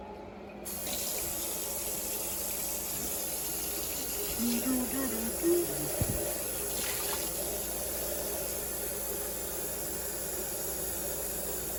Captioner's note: water runs